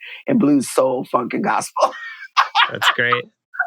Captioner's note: laughter